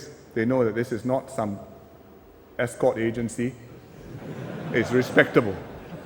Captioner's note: laughter